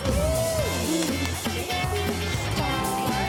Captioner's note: cheering; upbeat music